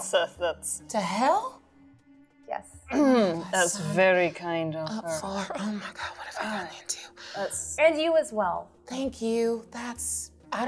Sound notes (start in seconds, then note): 3.5 clears throat